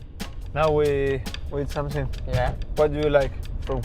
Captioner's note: in English